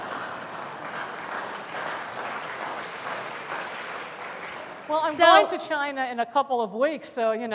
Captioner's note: applause